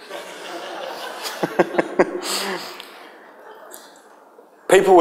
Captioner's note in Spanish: risas de la audiencia